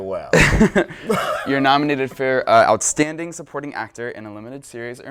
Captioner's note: laughs